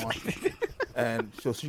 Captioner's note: laughter